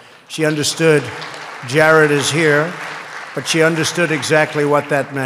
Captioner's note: applause